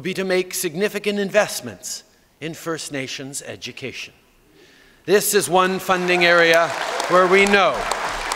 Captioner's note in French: Applaudissements